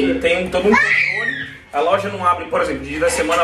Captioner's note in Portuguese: criança gritando